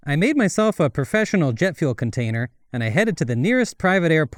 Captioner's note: none